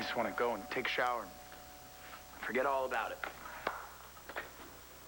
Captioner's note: doorbell rings